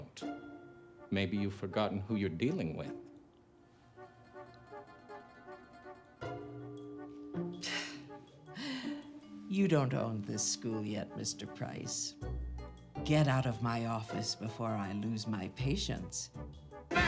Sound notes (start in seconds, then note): 4.2 soft tense orchestral music; 7.6 scoffs